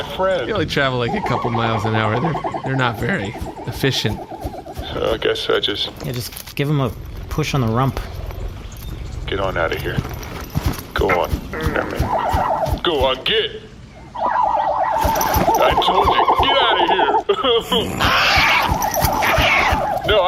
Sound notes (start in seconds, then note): 11.5 sobbing; 17.6 blizzard screeches